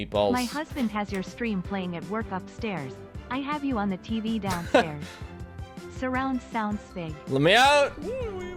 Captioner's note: laughs